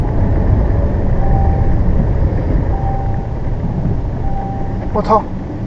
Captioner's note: coolant overheat alarm beep